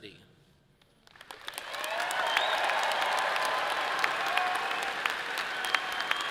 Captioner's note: audience applauds and cheers